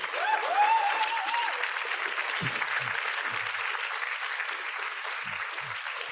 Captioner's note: audience cheering; audience applauding